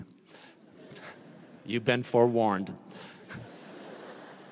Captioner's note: laughter